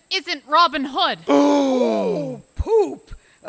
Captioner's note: over-exaggerated gasps of shock